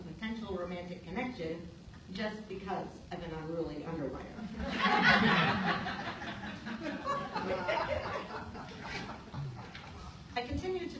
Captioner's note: laughter